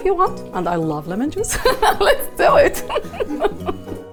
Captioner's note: laughs